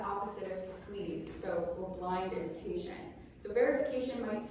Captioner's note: non-english speech